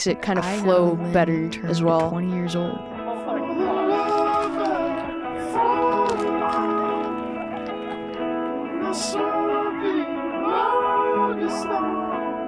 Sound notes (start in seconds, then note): 3.8 logo crackles